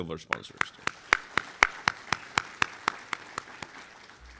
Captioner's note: applause